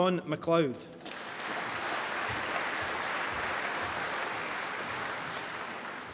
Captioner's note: applause